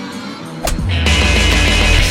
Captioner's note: title plate thudding; stamper thwacking; energetic rock music